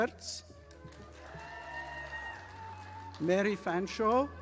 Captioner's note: audience applauding